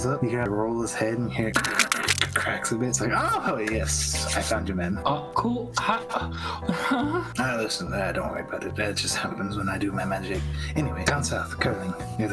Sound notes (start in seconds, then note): 1.5 ccrkkcrkkcrkk